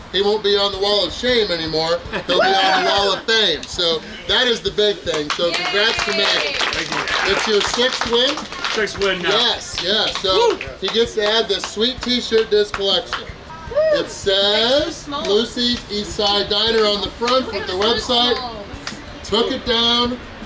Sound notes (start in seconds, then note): 2.1 laughing; 5.0 applauding